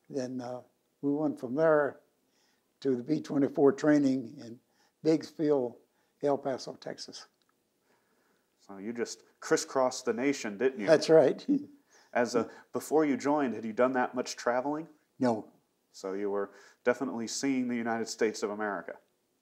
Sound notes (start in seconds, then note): 11.9 laughs